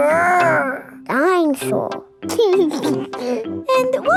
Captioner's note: giggles